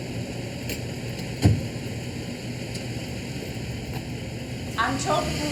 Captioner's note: car door bangs